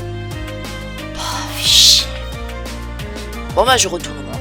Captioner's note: sighs